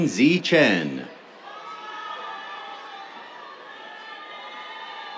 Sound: cheers

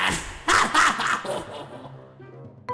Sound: awkward laughs

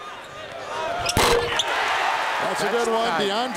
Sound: ball hitting rim

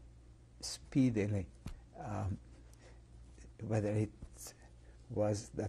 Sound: pauses for 3 seconds

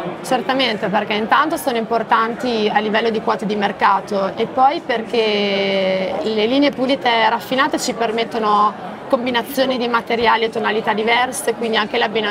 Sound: speaks Italian

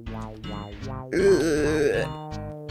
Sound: more Groaning Sounds

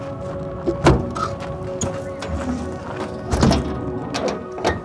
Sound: doors closing

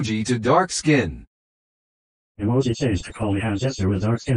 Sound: voiceover speaking

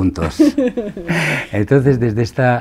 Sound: laughs

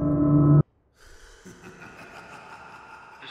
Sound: distant laughter

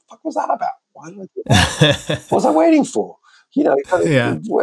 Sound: laughter

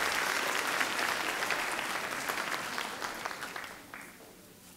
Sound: audience clapping

